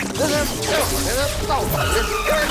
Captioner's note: electricity crackling